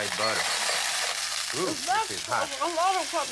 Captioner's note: sizzling